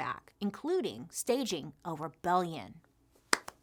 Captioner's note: claps